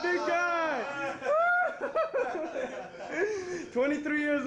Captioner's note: soldiers laughing and cheering